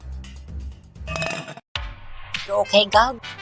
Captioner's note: clang